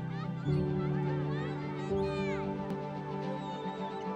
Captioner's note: calm music; children chanting